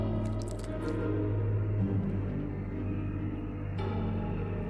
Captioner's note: somber music; flesh ripping